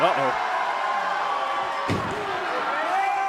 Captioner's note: cheers & applause